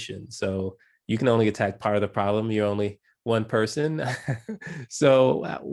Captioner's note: laugh